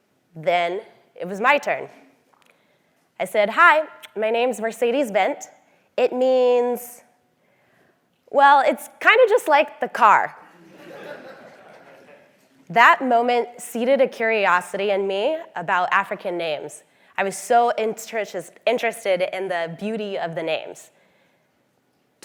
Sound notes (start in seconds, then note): 10.6 laugh